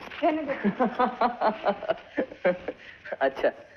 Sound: laughing

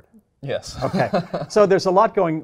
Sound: laugh

